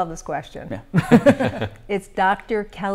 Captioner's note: laughter